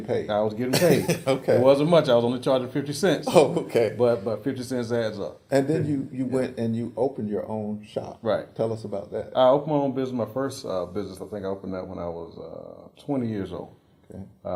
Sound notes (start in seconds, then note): 3.1 laugh